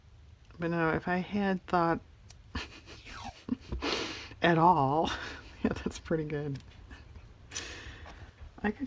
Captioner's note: laughs